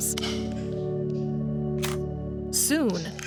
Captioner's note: camera shutter clicks